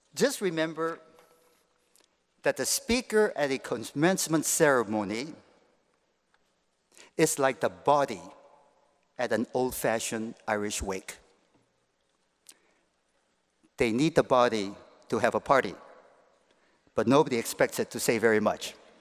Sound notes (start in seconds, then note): none